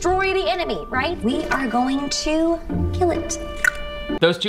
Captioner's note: clicks tongue